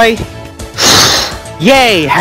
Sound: blowing Sounds

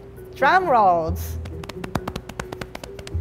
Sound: patting

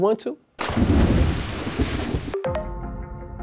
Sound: splashing

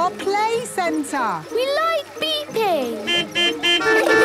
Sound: horns beeping

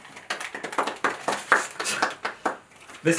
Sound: enthusiastic Clapping

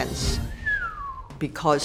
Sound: whistles

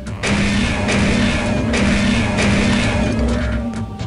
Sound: gunshots; gunshot

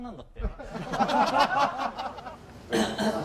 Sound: laughing out loud

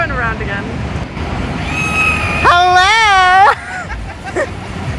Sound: screaming; laughing

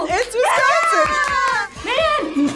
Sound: both cheer

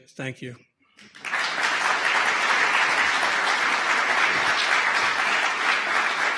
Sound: audience applause

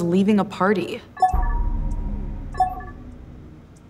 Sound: beeping

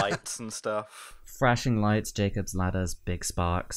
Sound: laughter

